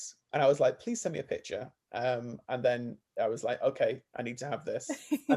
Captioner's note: laughs